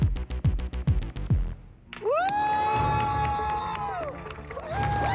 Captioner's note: audience applauding; Abby cheering; dramatic music playing